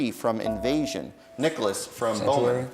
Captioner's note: dinging